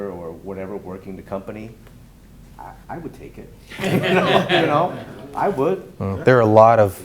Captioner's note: laughing